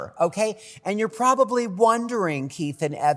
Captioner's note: none